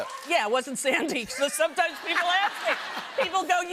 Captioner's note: laughter